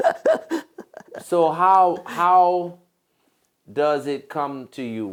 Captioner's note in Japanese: 笑い